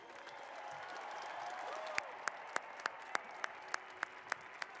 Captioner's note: cheers and applause